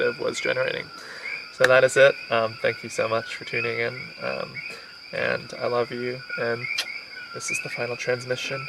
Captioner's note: kisses